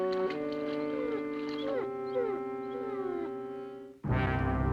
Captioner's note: whimpering